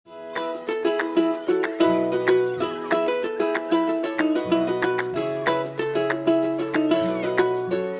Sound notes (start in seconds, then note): 0.1 lighthearted music; 1.2 children chattering